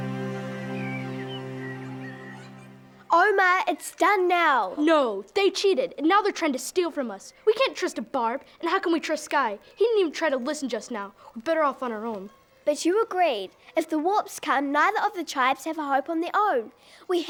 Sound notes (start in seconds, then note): 0.0 birds chirping